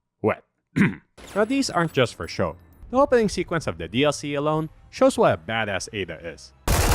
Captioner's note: ahem